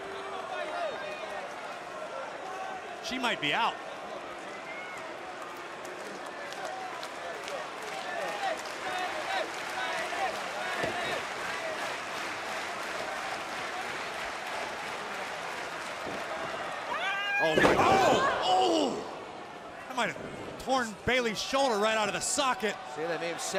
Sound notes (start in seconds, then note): 0.3 crowd chatter; 5.9 crowd cheering